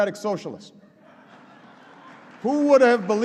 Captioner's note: laughter and applause